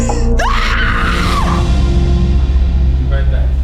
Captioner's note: screams